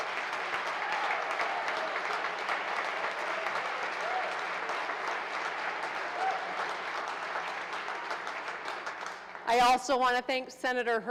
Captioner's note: applause